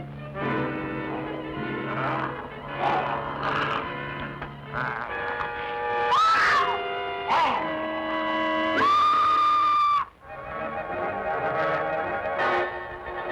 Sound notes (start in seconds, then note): 0.4 wolfman growling; 5.6 screams loudly; 8.7 Lenora screaming; 9.9 suspenseful music